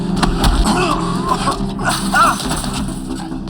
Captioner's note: groans